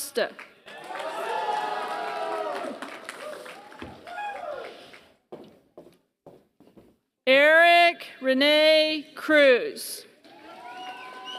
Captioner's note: applause; applause